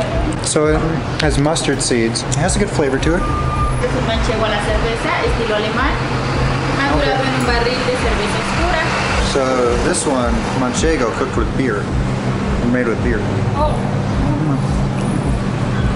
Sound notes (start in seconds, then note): 4.0 speaking in Mexican